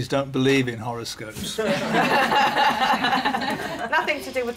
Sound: laughter

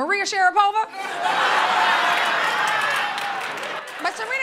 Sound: laughter

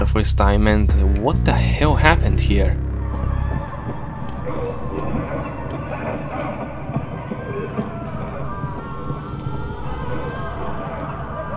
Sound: screams

